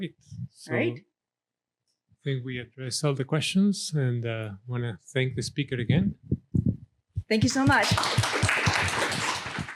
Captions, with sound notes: - All right, so I think we addressed all the questions and wanna thank the speaker again. - Thank you so much. [audience applauding]